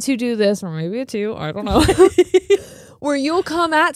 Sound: both laughing

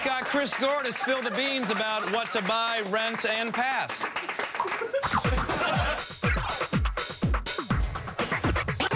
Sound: applause

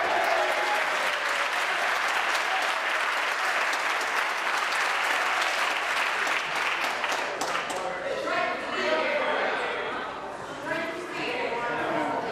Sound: applause

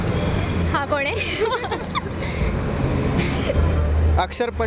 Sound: laughter

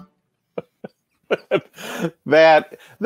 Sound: guitar music; laughing

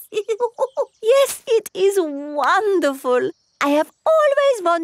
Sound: laughs

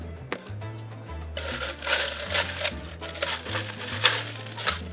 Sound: ice clinking

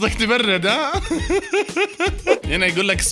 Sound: laughter

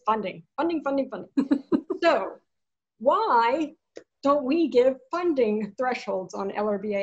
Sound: laughs

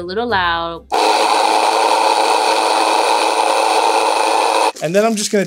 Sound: mill whirring loudly

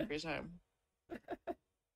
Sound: laughs

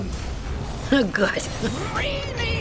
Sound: chuckling

